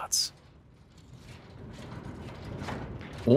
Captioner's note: rattling